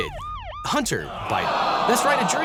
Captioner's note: siren blaring; crowd groaning